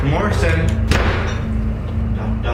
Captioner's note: door Slams